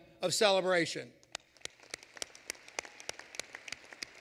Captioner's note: applause